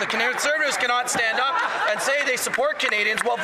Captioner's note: some Applause